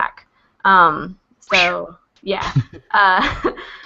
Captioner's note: laughs